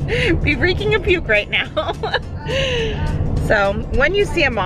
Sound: laughs

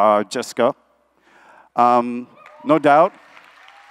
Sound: applause

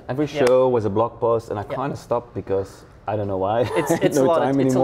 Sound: laughs

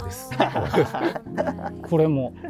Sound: laughing

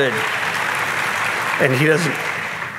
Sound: audience clapping

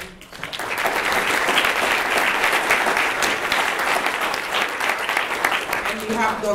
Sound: applause

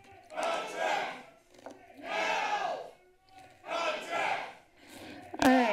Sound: protester shouting

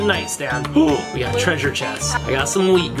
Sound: gasps

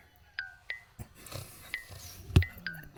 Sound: snores

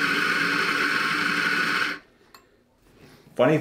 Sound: coffee grinding

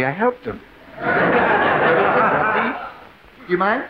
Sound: audience laughing

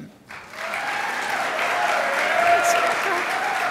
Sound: crowd applauds

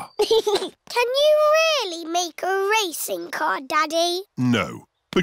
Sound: chuckles

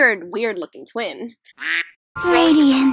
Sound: quack

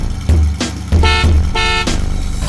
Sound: beep beep

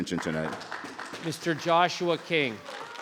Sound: audience clapping

